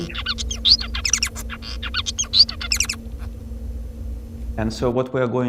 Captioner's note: bird singing